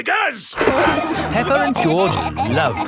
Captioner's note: peppa and george laughing